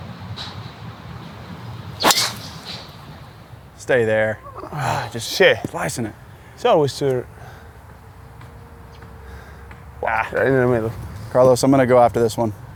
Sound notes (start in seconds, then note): 4.4 groans; 10.1 grunts; 10.6 speaks Spanish